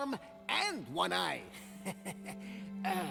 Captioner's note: laughs